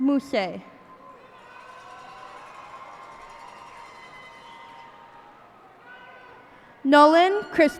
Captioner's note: cheers and applause